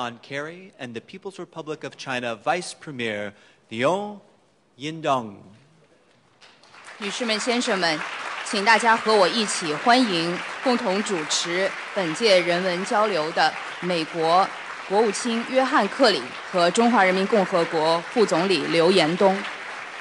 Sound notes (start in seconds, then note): 6.4 applause; 7.5 Announcer, speaking Mandarin